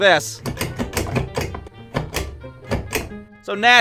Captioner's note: like metal push switch constant clicking